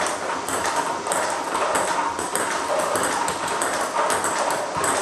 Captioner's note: ball ping pong hitting continues